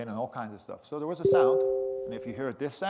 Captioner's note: computer beeps